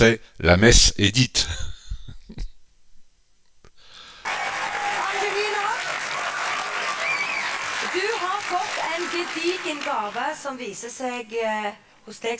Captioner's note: applause